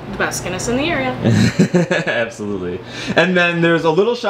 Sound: laughs

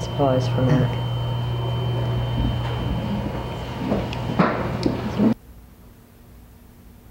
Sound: people chattering

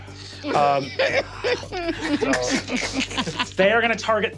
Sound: Murph giggling

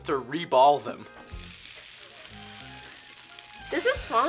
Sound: iron sizzles

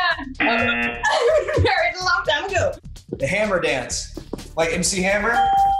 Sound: laughs

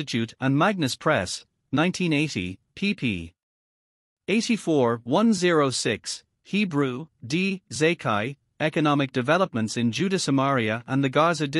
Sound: Hebrew

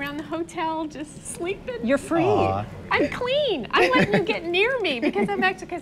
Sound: laughs

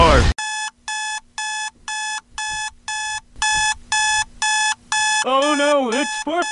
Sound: alarm

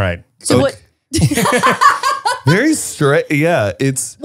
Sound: everyone laughs

